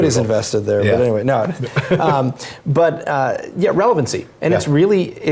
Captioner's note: laugh